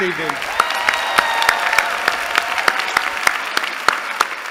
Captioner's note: applause